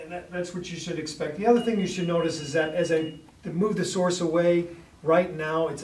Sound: alarm beeps

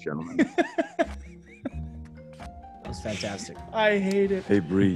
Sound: laugh

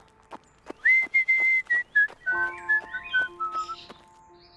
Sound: whistling

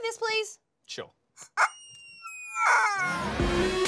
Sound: weird barking and squeaking sounds

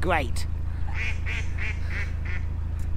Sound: ducks quack in background

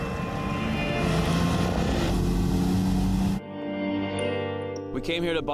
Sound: engine noise

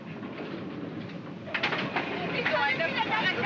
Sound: doors close; all shouting in German

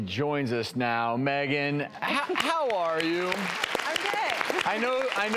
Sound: audience clapping

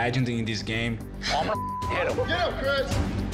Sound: beep

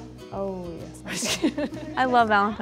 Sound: laughs

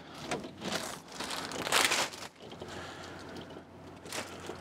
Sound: plastic rattles

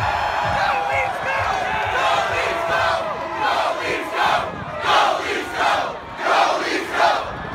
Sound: Go Leafs Go! Chant

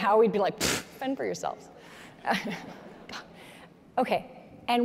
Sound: chuckles

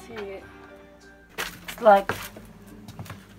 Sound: feet crunching through junk

